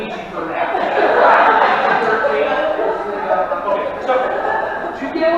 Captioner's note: laughing